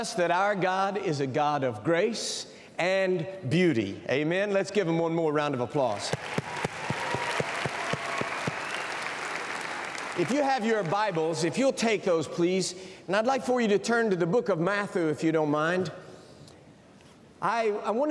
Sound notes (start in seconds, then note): 11.1 cheers and applause